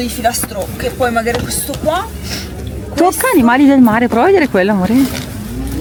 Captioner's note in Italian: sbuffare